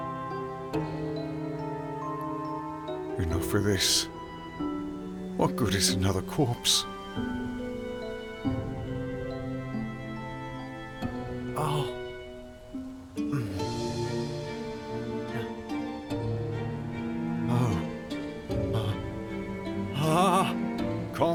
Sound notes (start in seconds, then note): 11.4 the stranger groans